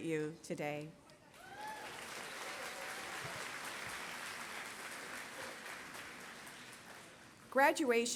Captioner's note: applause